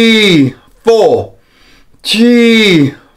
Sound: inhales

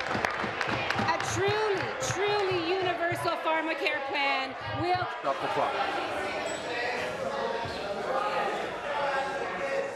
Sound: applause

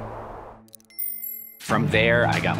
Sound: sunglass chime

